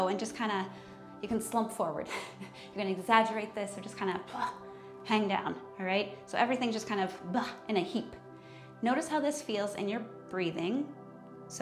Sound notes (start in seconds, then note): 2.1 chuckles; 4.6 exhales